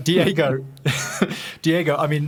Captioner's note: laughing